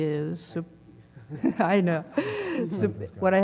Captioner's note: laugh